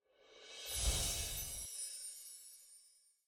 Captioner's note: air whooshing